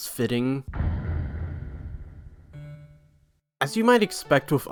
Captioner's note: undertale logo thud sound